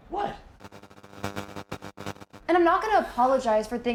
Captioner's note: static buzzing